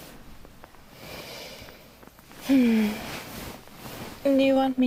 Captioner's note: sighing